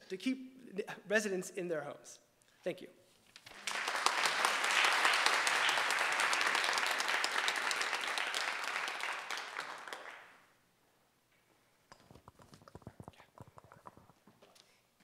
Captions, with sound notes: to keep residents in their homes. Thank you. (audience applauding)